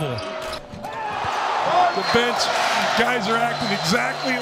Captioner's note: people cheers